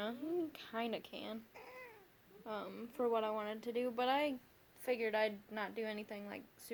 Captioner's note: interrupting meow